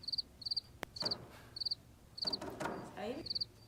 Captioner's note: krikets